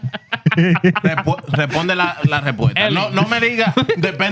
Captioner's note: laughing; speaking Foreign Language